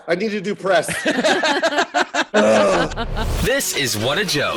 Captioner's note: laughing